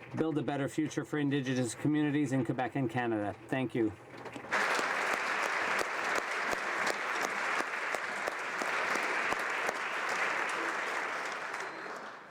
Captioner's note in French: applaudissements